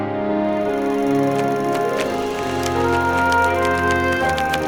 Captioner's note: movie projector running